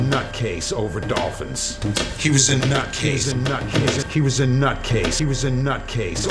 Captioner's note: voice echoing